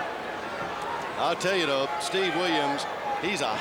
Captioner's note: crowd chatter